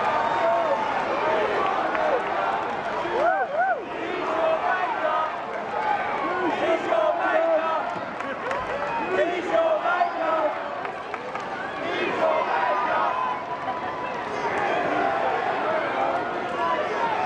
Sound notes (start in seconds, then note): 3.5 chanting